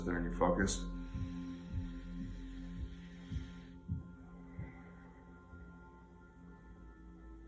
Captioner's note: gentle music; breathing deeply